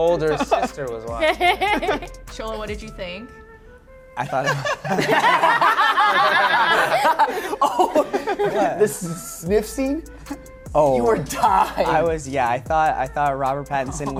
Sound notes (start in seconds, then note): 1.2 laughter; 4.4 laughter